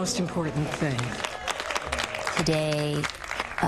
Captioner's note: audience applause